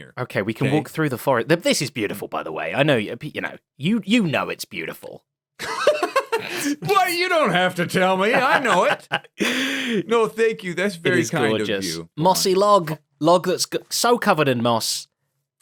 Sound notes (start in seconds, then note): 5.6 laughs